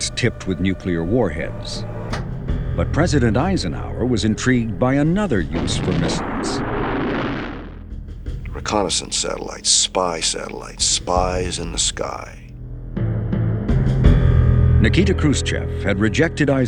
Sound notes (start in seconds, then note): 6.4 rocket whooshing; 13.7 dramatic music